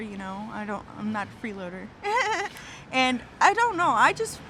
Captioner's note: laughing